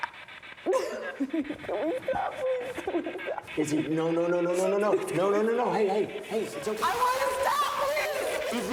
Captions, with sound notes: - Can we stop please? (Isabel weeping) - Izzy, no, no, no. Hey, it's okay. - I wanna stop, please.